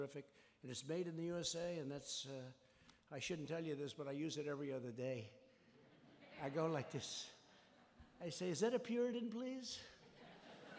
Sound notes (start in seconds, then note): 5.7 laughter; 10.1 laughter and applause